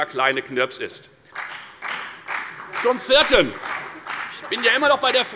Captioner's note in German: Beifall bei der FDP und bei Abgeordneten der CDU